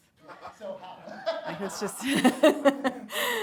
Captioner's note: chuckling; everyone chuckling